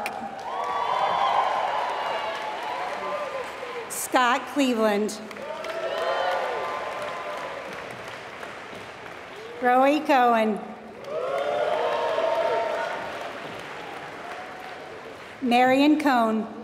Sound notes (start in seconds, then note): 0.0 applause